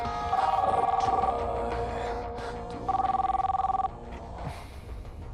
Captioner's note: rock music; phone rings